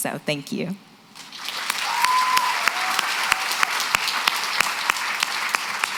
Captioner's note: applause